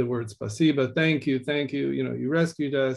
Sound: speaking in Russian

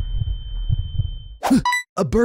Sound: gasps

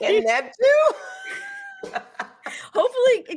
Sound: laughing

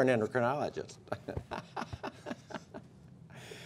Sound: laughter

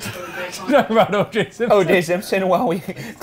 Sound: laughing

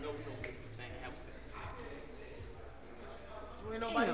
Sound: crickets chirping

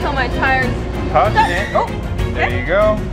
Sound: tires screeching

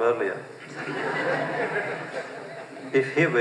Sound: laughter

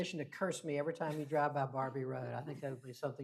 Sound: laughs

